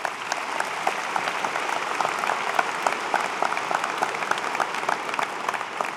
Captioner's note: applause